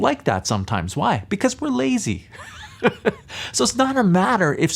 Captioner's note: laughs